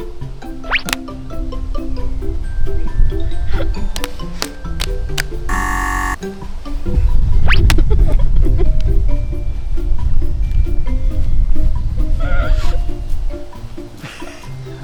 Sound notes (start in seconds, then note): 5.5 buzzer